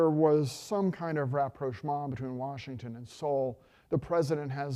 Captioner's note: speaking foreign language